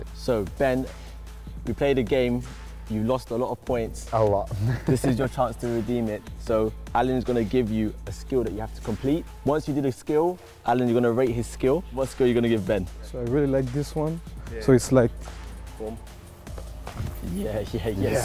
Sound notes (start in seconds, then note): 4.5 chuckle